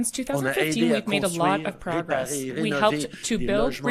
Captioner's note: speaking French